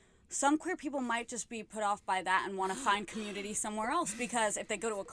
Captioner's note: gasps